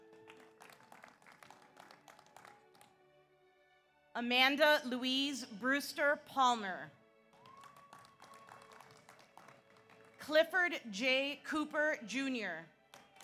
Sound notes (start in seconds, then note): 0.0 audience applauds; 7.3 audience applauds; 7.4 audience cheers